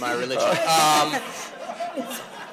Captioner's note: laughter